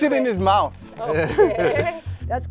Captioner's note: laughing